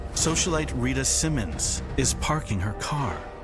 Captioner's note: none